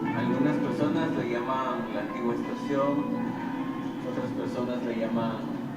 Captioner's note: speaking in foreign language